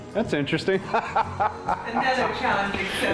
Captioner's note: laughing